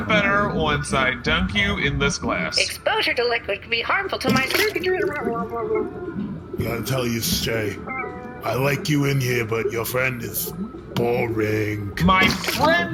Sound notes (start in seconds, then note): 4.2 GOOD_E gurgles